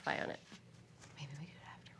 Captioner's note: trails off into whispering